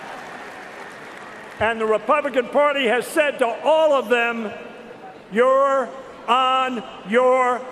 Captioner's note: cheers and applause